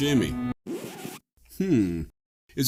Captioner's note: record scratch nopes the music into oblivion